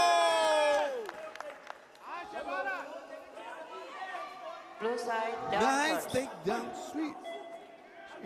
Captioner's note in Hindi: तालियां